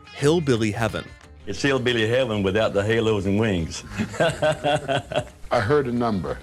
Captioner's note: laughter